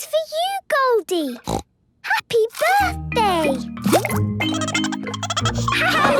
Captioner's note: snorting; Goldie giggling